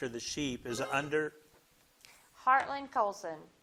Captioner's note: buzzer blips